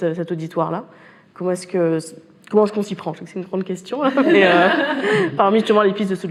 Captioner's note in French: rires